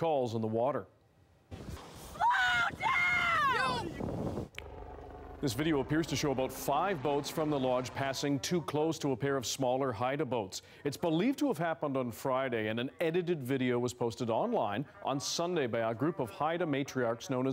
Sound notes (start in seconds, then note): 7.7 yelling